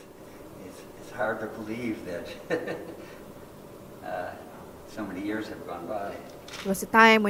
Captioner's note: laughing